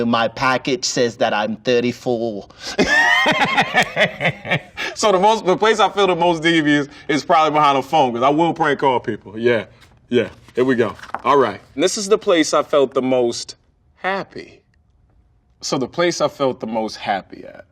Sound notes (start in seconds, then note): 2.6 laughs